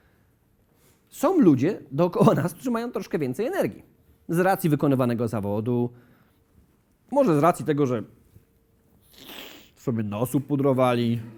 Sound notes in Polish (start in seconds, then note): none